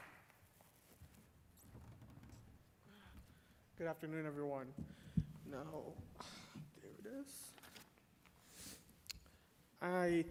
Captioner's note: applause